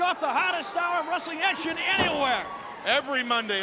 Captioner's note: body thudding